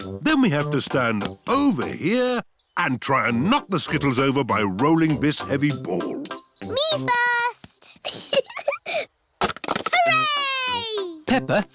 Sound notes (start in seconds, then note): 8.0 giggling